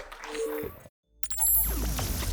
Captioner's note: audience applauds